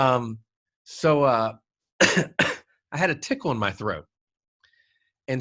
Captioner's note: coughs